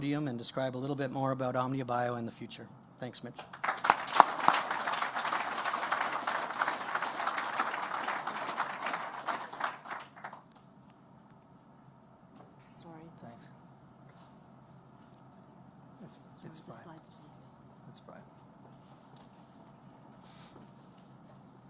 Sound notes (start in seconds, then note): 8.3 applause